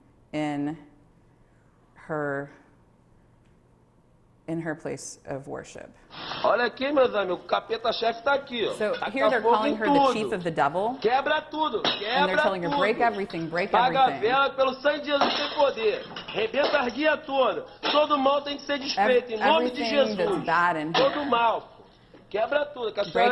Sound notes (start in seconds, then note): 6.5 speaking portuguese; 14.1 speaking portuguese